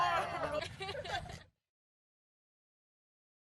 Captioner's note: kids giggling